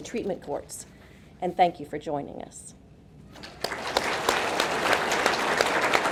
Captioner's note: audience clapping